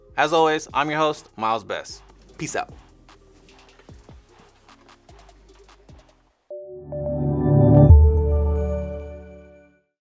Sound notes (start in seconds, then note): 3.3 upbeat music; 6.6 bells chiming